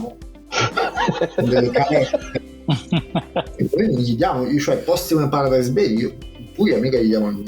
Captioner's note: laughs